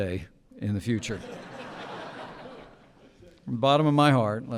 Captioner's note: laughter